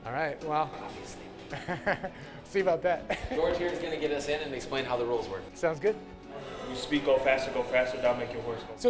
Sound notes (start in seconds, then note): 1.4 laughs